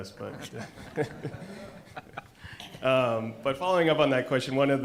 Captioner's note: audience and panelists laugh